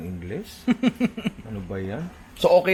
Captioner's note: laughs